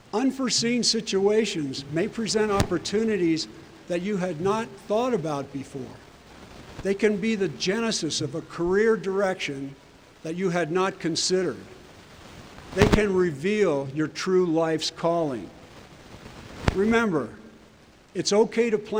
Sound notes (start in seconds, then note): none